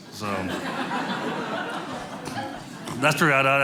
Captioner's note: audience laughing